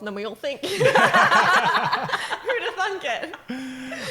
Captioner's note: laughing